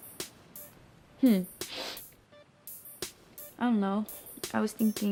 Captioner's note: sniffs